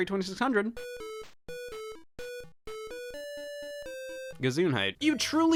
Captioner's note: vide game beeps